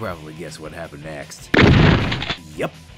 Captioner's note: gunfire